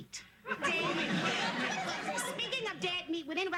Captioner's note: sitcom laughter